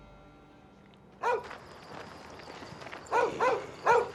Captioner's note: barking